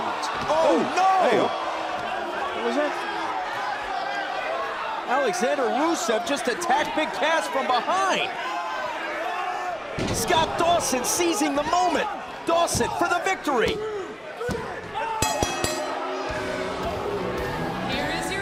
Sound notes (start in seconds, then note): 15.2 bell ringing